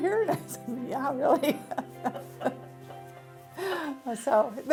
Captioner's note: laughs